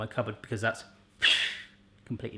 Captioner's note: explosion imitation